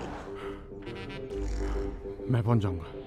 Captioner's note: Keshav exhales